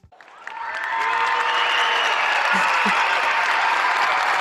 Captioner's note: cheering and applause